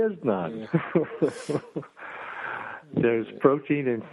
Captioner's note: laughs